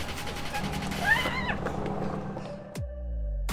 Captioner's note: Jinxie screams; upbeat music